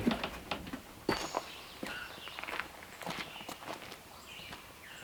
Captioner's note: birds chirping